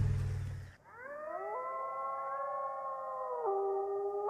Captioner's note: chorus of howls